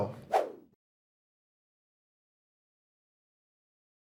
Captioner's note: screen whooshing